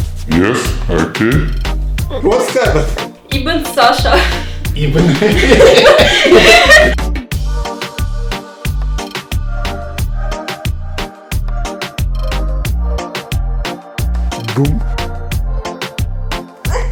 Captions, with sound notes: yes okay what's happend? ich bin Sasha *laughing*